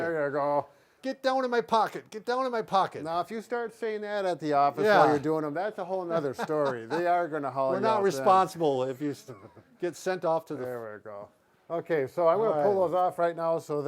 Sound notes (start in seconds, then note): 6.1 laughing